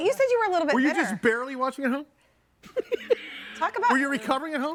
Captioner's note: laughing